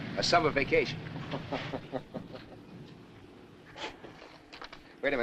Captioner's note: Tom chuckling